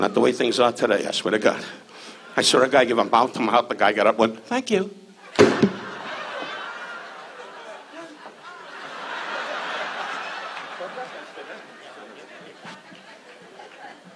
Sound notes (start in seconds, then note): 5.2 audience laughs